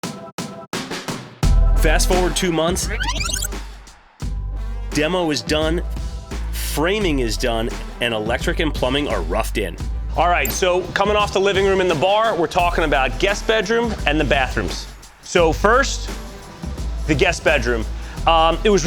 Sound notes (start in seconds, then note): 0.2 upbeat music; 2.9 tape rewinding sound